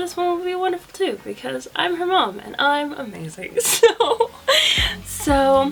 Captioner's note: laughs